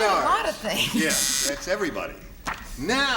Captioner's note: buzzer